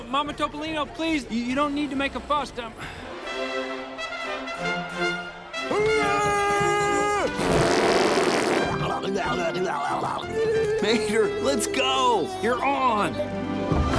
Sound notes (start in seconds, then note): 5.7 screaming; 7.2 blowing raspberry